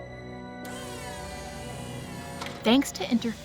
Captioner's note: whirring